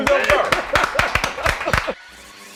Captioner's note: laughs